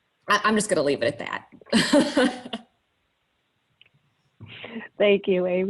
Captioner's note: laughs